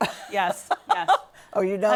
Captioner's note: laughter